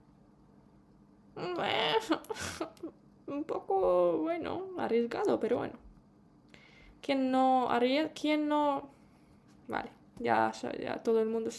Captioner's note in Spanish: risas